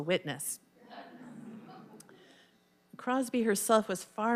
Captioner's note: audience laughing